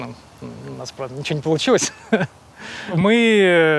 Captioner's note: chuckles